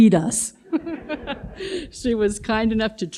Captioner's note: audience laughs